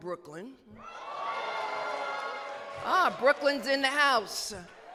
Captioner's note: cheers